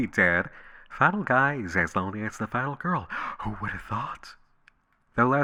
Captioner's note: gasp